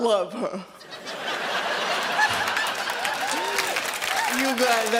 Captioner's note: audience laughs